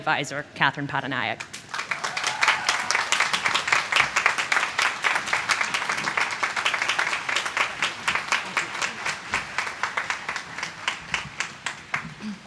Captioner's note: applause